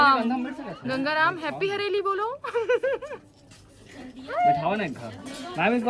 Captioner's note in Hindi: हंसी